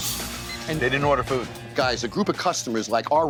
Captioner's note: clock beeping